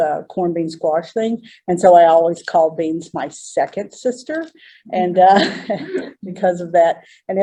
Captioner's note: laughter